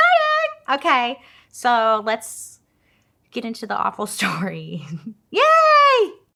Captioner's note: laughs